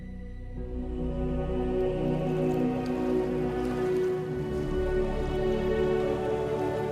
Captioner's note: dramatic music; waves splashing